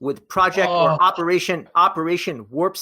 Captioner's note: groans